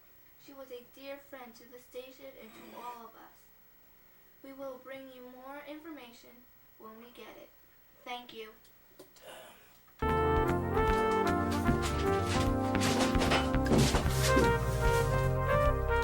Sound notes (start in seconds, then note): 13.1 loud thump